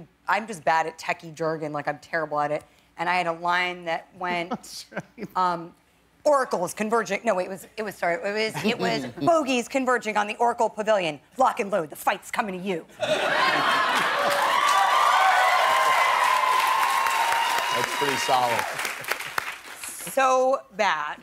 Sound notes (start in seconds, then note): 13.0 laughter; 13.9 applause